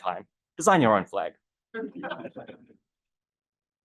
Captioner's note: audience laughter